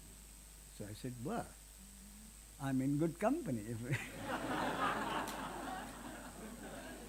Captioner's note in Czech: smích